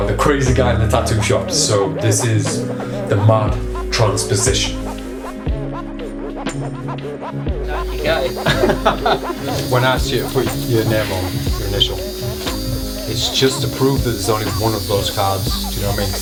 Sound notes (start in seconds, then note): 5.5 upbeat music; 8.0 tattoo machine buzzing